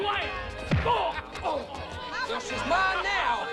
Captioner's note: blow thuds; patron 2 grunts